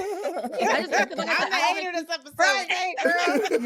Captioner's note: laughing